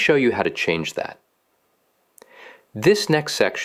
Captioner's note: pause